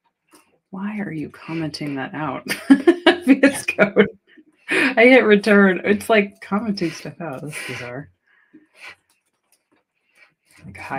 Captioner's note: laughter